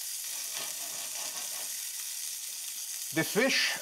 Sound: sizzling

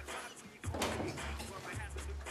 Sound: door opens

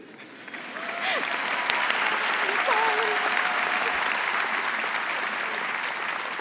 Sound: crowd applauding; crowd cheering

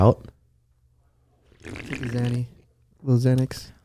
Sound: slurps

